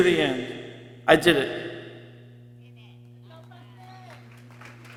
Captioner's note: people cheering